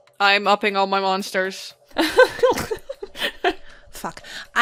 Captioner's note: laughter